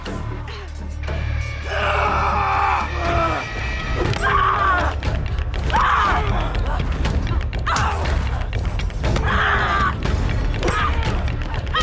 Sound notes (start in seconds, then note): 1.7 shouting; 3.8 dramatic music; 4.7 both shouting; 9.0 dramatic music